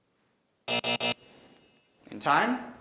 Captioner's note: buzzing